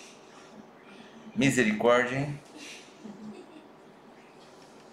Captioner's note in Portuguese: risos